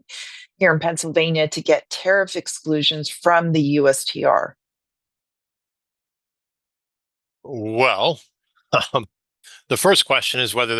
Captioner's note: laughs